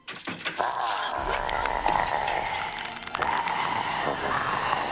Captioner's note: ominous music; mummy growling